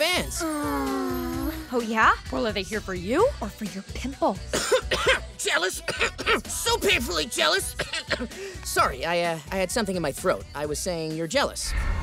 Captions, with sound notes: [sighing] Oh, yeah? Well, are they here for you or for your pimple? [coughing] Jealous. [coughing] So painfully jealous. [coughing] Sorry I, uh, I had something in my throat. I was saying you're jealous.